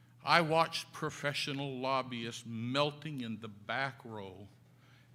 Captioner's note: none